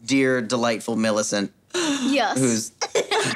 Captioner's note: laughing